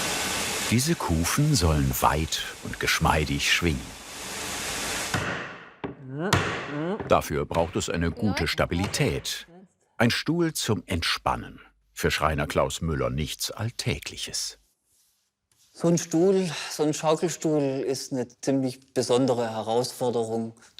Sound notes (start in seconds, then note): 5.0 hammering